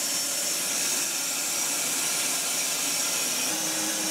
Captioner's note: saw whirring